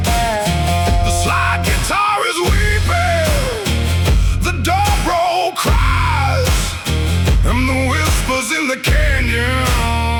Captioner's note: screaming